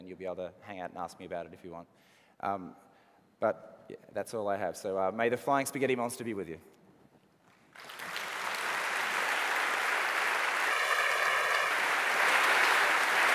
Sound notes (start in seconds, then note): 7.6 applause